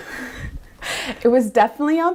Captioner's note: laughs